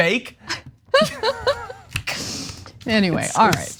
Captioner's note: laugh